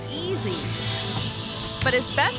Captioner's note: bike whirring